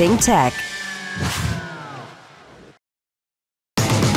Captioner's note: whoosh